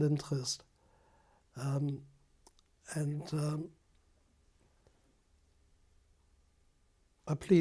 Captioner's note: pauses for 3 seconds